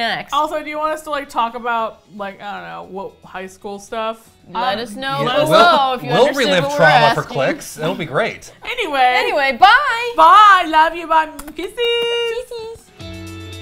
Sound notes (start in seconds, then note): 11.4 make smooches; 12.6 upbeat music